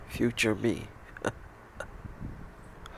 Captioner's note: weak laughs